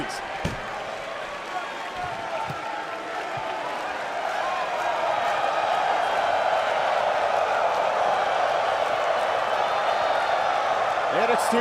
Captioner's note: crowd cheering